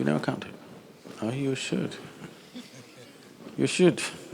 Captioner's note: few Laugh